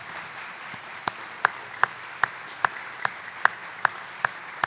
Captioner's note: applause